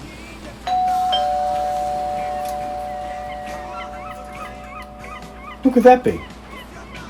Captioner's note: doorbell